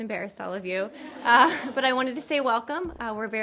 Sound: laughter

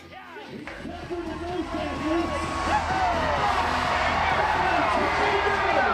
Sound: crowd cheering

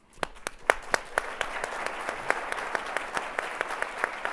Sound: audience applauds

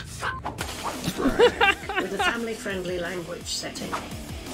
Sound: Solus laughs

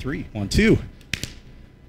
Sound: claps

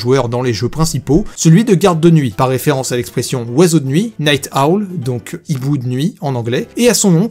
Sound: in french

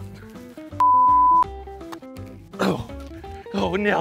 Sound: beep

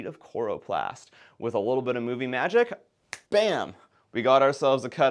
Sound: snaps fingers

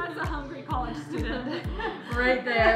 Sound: laughs

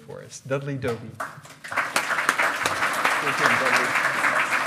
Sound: loud clapping

